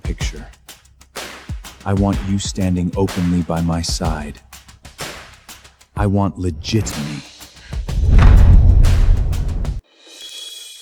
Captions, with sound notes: picture. I want you standing openly by my side. I want legit me. [Door slams] [Door slams]